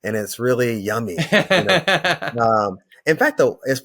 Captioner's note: laughs